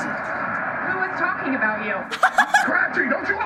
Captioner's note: laughs